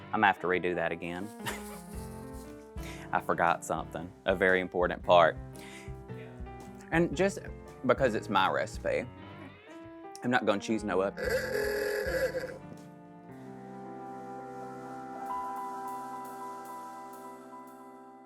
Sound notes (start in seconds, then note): 11.2 rooster crows; 13.2 bright music